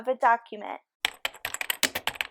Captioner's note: typing